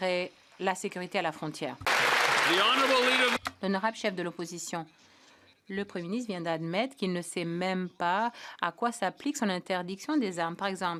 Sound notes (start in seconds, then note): 1.8 cheers & Applause